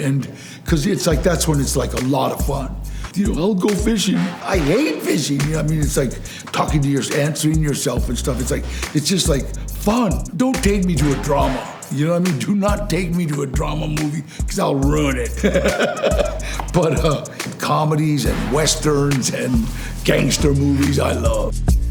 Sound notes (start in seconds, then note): 14.8 laughs